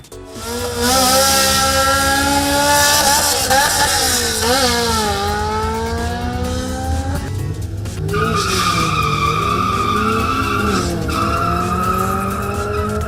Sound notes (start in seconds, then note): 0.0 cars revving